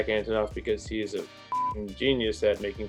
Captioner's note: beep